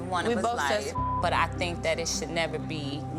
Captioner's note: beep